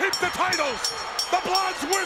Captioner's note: bell ringing